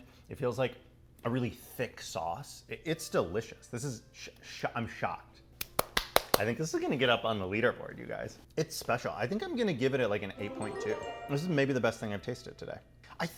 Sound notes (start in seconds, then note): 5.6 hands clapping